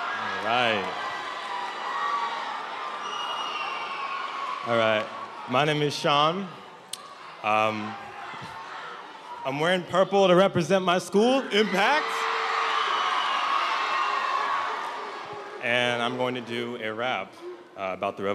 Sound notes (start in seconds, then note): 11.4 cheers and applause